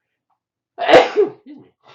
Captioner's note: sneezes